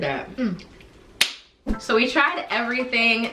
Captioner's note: palms smack together